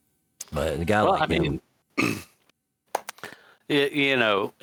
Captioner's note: clears throat